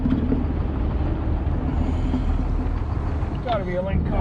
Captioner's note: boat engine idling